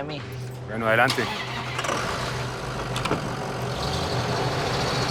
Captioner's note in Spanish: Ruido del vehículo